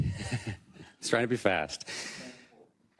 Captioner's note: laugh